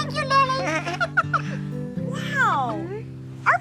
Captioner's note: laughing